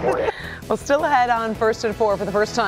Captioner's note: laughter